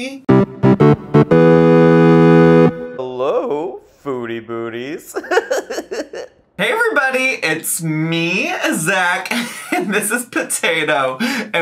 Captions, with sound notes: (upbeat music) Hello, foodie booties. (laughs) Hey everybody, it's me, Zach, and this is Potato,